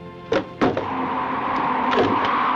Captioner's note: door opens